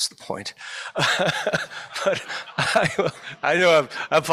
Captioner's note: laughter